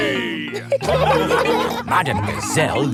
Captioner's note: laughing